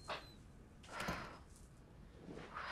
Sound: exhales

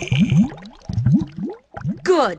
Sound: bubbling

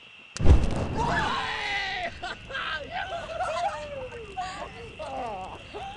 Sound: shouting; cheering

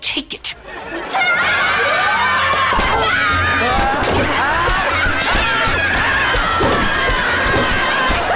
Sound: screaming

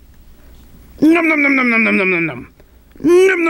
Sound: nom-nom-nom-nom

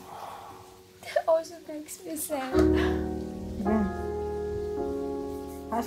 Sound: crying

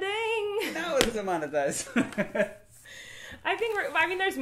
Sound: laughing

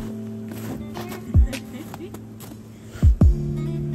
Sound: giggles

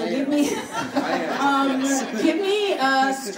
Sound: laughing

